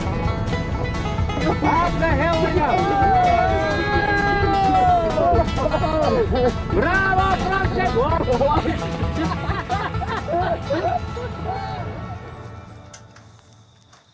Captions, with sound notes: Off the hill we go! (all cheer) Bravo, Francesca! (all laugh) (crickets chirp)